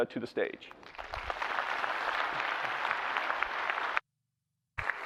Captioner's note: applause